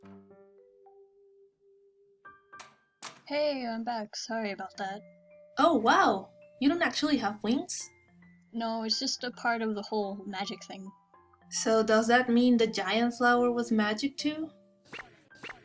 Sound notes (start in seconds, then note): 3.0 door opening and closing